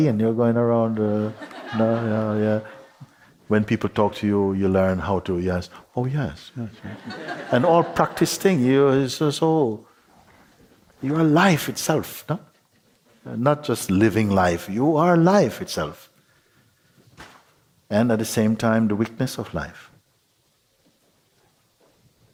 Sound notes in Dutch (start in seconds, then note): 6.7 gelach